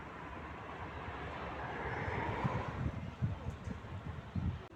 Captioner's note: distant traffic